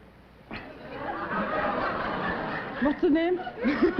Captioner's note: laughter